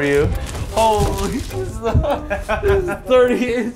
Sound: laughs

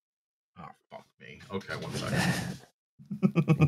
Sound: sounds of movement from mic; chuckles

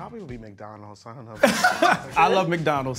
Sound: singles laugh

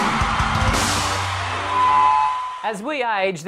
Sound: crowd cheering

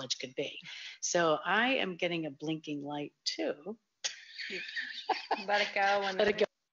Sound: laughs

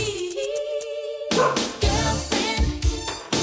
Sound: dog barking

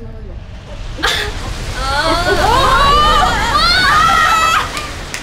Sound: crash landing

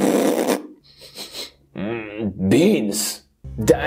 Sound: farting; Grandpa sniffing

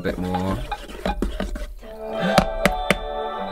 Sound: tap, Tap, Tap

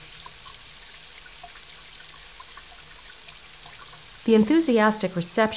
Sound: sound of raindrops splashing

